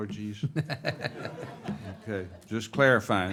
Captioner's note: all laugh